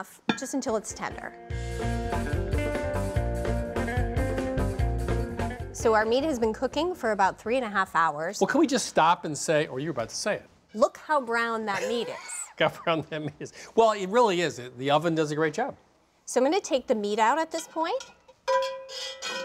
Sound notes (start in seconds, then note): 11.7 laughter